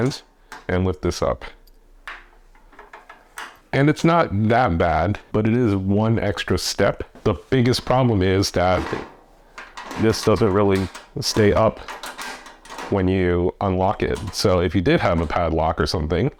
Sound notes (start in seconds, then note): 8.6 latch